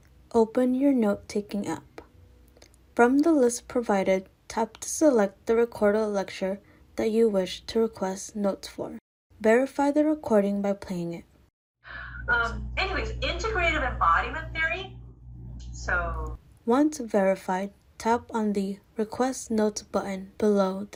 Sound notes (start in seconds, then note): 11.8 recorded Lecture Playing